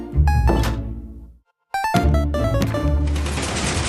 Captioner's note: door slams